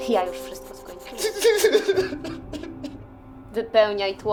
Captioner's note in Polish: szloch Redaktora